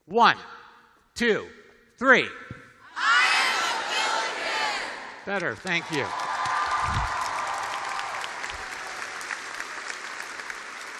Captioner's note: cheers and applause